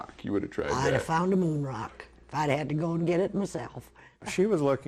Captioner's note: laughs